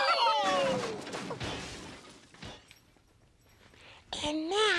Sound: crash

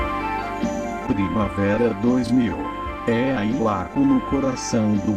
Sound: male announcer speaking Portuguese

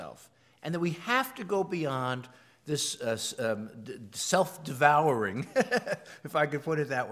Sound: laugh

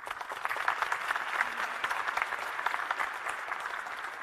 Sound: audience applauds

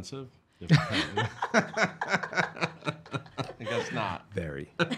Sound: laughing

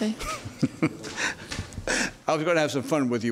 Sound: judge laughing

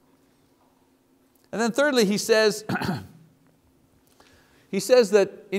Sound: coughs

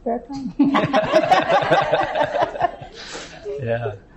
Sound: laughter

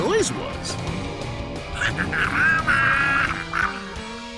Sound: growling

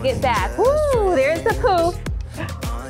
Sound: sighs

